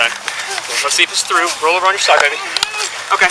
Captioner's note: groaning